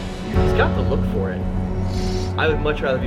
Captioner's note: sniffles